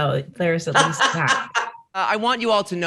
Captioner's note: Rosé laughs